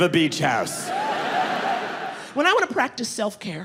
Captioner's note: audience laughing